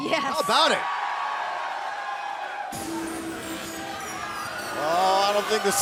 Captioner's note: cheers and applause